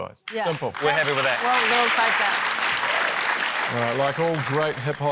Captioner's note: applause